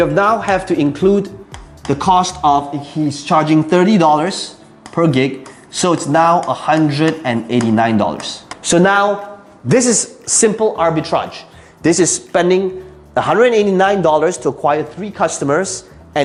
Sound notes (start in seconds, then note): 1.4 tapping marker; 4.8 sliding and tapping marker